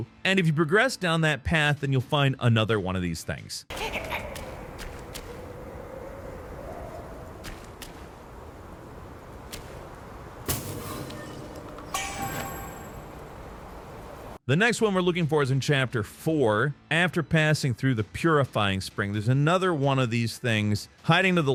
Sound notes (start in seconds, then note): 3.7 footsteps echoing; 3.7 creature crackling; 7.4 wind howling; 12.5 bells chiming